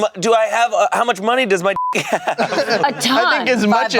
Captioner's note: beep